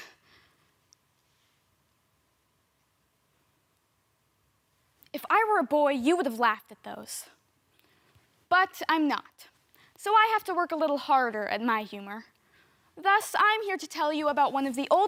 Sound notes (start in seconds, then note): 1.2 soft breathing; 7.4 click